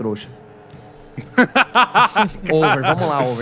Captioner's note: Luis laughs